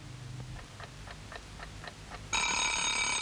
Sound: clock ticking; alarm ringing

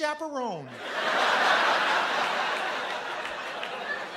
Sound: laughter

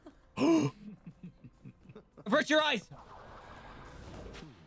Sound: gasp

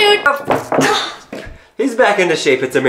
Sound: toy falls on table

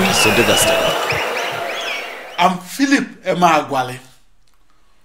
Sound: wild applause and cheering for 22 seconds

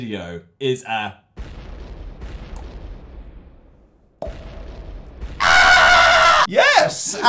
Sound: various explosion noises; popping noise; screams

